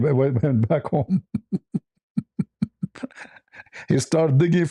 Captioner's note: ketawa